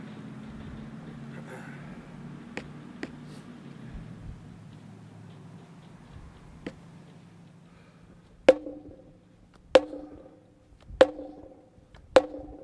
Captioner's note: pounding